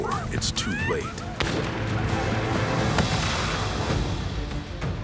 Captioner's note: gunfire